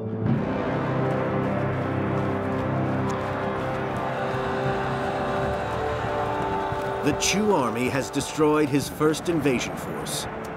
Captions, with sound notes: (dramatic music) (army yelling) The Chu army has destroyed his first invasion force,